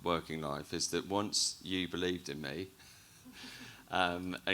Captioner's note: chuckles